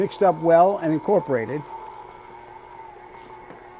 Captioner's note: mixer whirring